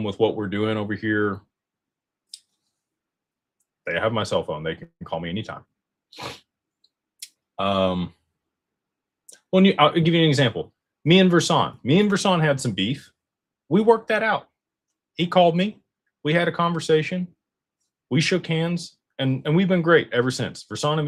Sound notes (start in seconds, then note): 6.2 snorts